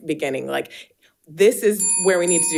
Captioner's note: bell dinging